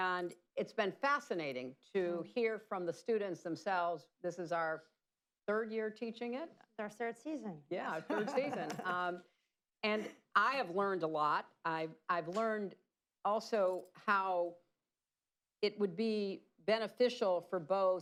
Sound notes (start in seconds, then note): 8.0 laughter